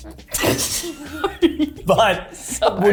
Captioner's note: laughing